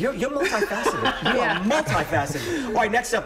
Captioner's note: laughter